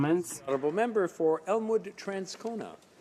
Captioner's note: speaking French